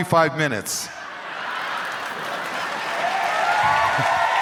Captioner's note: crowd cheering and laughing